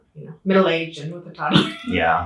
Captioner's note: chuckling